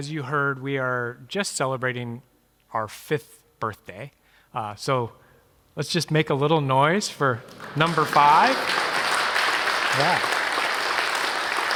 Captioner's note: applause